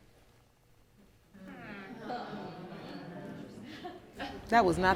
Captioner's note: audience mumbles in disbelief; audience laughing